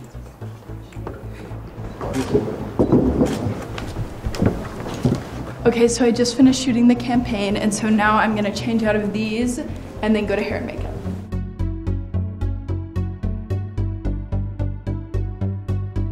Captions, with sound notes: [camera shuttering] - Okay, so I just finished shooting the campaign. And so now I'm gonna change out of these, and then go to hair and make-up. [soft pop music]